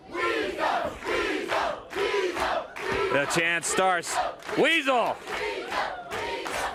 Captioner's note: crowd cheering